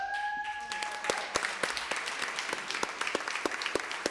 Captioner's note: cheering and applause